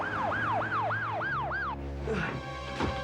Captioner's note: siren